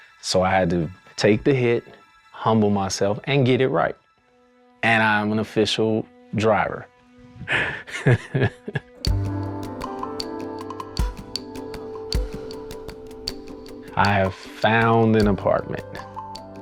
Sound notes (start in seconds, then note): 7.5 laughs; 9.7 ambient music